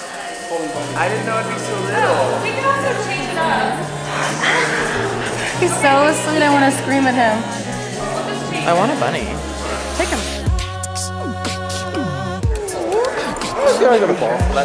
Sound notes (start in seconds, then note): 4.0 gasps excitedly